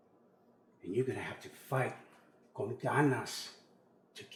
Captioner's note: Spanish